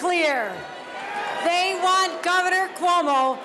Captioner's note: cheers and applause